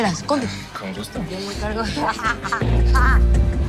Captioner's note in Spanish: Risas